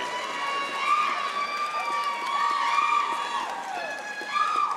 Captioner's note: audience cheering